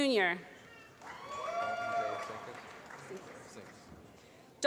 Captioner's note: applause